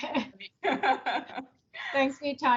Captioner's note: both laugh